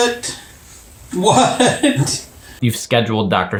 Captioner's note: chuckles